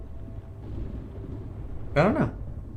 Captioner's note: thunder rumbling